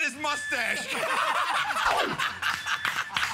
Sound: laughter; applause

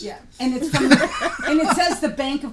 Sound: voiceover; laughing; voiceover

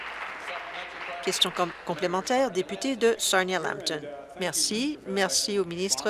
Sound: applause

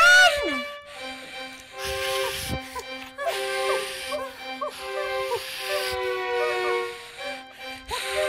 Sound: heavy breathing

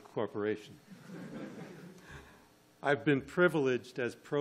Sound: audience laughing

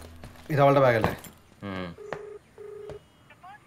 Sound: phone ringing

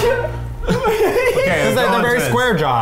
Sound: laughter

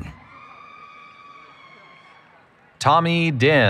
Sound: cheering

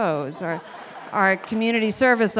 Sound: audience laughing

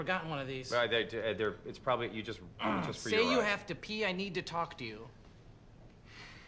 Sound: stuttering

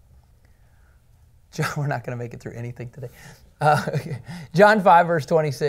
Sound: laughter

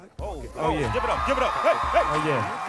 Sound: applause

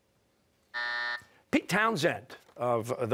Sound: buzzer

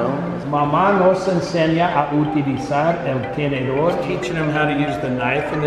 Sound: speaking Spanish

